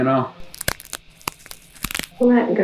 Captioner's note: bones cracking